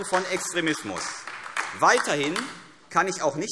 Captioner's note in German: Beifall AfD